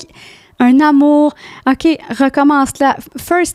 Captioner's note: in french